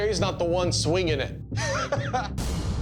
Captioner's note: laughs